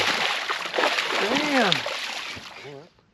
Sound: fish splashing

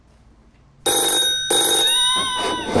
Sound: loud ringing!

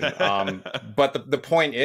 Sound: laughing

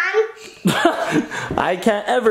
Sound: laughing

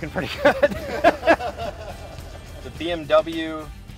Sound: laughing

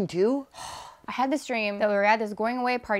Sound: sighs

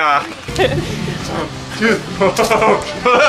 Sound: laughs

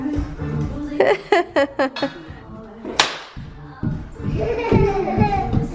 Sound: pop music in background; laughs; kids giggle

